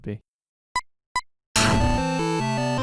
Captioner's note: SFX: beeping; BGM: retro video game style music